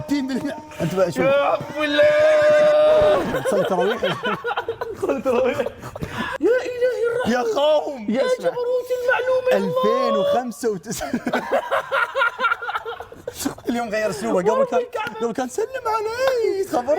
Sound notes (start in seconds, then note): 5.4 all laughing; 11.0 both laughing